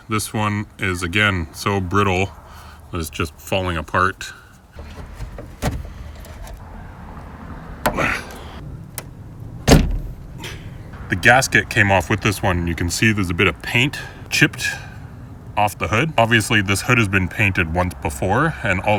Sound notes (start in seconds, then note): 9.6 nozzle popping